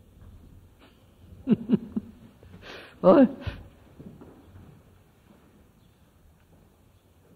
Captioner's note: laughs